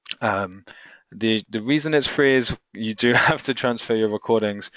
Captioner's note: chuckles